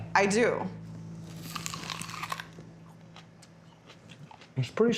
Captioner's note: biting, chewing